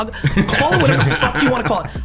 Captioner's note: laughs